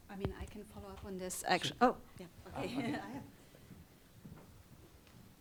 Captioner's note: chuckles